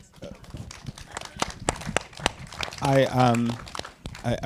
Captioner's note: audience applauding